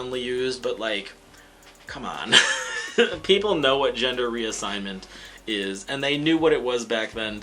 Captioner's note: laughs